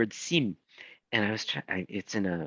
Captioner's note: speaking in foreign language